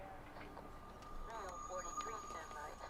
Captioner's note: click